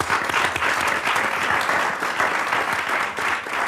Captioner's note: audience applauds